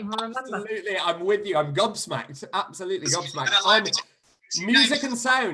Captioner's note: laughter